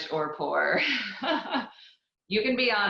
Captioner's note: laughs